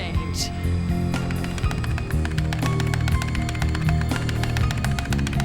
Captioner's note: keyboard clacking